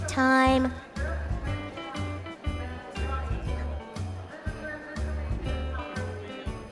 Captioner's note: airport intercom echoing; crowds murmuring